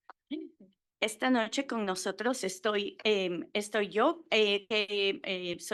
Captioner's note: Spanish